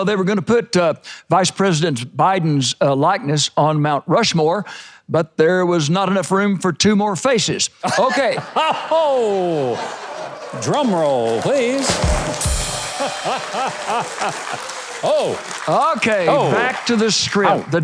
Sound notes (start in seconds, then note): 8.0 audience laughs; 12.5 drum roll; 13.5 audience applauds